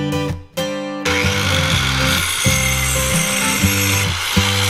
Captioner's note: handsaw buzzing